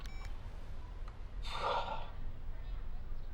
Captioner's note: sighs